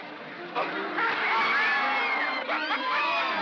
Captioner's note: water splashes; women scream; laughs